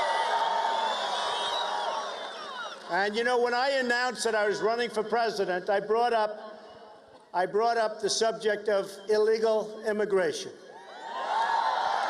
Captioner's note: cheers and applause